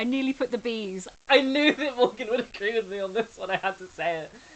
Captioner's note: laughing